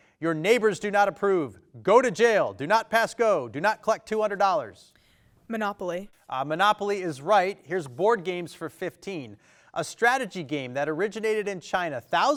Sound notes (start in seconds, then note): none